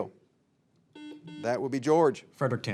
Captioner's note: signal beeps